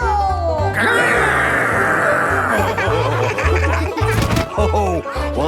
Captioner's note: laughing